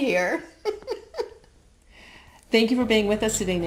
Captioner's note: laughs